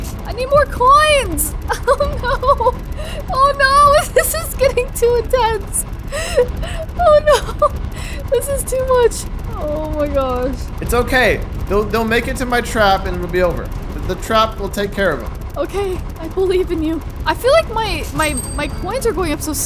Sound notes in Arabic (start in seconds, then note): 6.0 يضحك